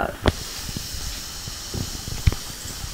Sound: water sizzling

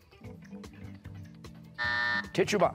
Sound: buzzer

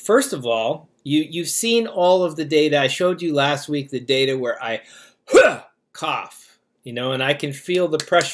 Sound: cough

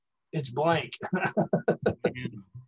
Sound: laughs

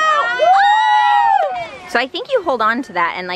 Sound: all cheering

